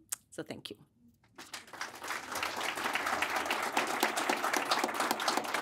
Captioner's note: audience applauding